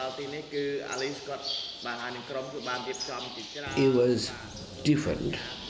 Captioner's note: khmer language can be heard